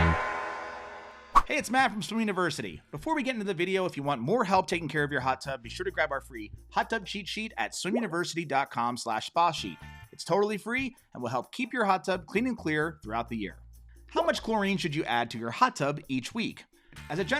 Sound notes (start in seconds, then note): 1.3 air wooshing